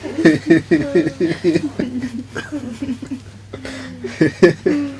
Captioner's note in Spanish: risas